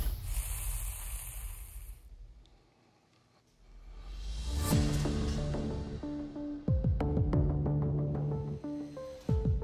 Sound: fire sizzling

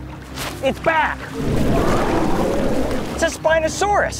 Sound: dinosaur growls

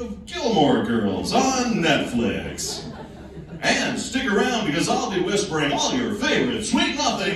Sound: laughing

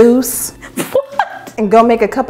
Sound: laughing

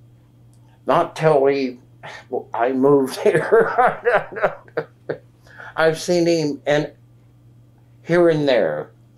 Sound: laughs

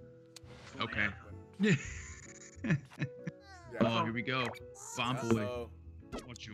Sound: laugh

